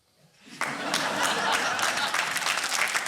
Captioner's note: laughter and applause